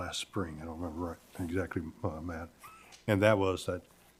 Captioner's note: murmurs